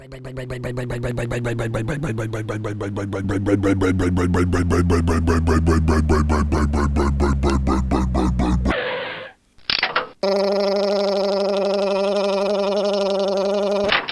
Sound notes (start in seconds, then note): 0.0 motor slowdown; 8.4 skid; 9.5 click